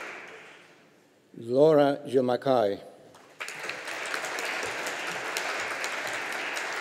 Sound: audience applauding

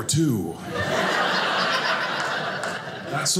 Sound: audience laughing

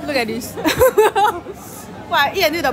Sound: laughs

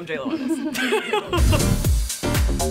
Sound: laughing; upbeat instrumental music

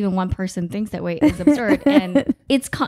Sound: laughing

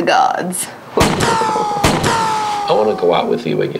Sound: shots firing

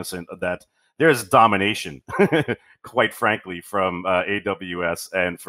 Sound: laughs

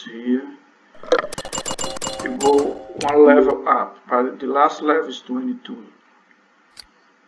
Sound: knock; click

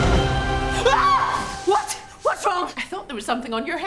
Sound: scream

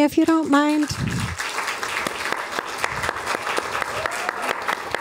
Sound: applause

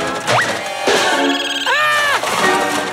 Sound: screaming

